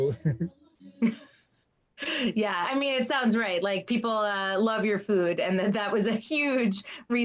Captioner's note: laughs